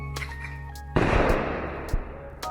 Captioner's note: adjacent BOOM